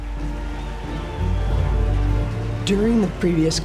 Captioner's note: audience applauding, cheering, playing